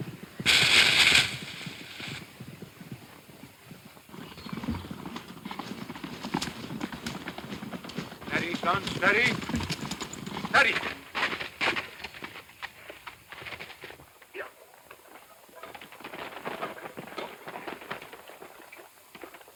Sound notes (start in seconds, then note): 0.4 crashing to ground; 4.2 hooves pounding